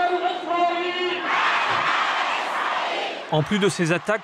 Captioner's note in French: Arabic spoken language